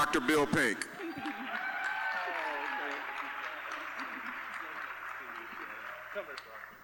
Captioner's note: applause, cheering